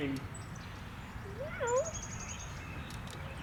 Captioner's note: meows